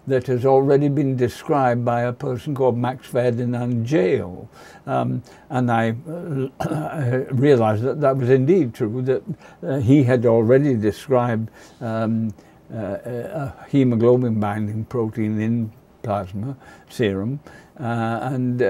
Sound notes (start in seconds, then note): 6.1 clears throat